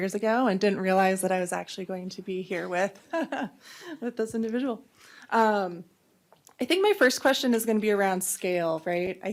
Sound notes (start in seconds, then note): 3.9 laughs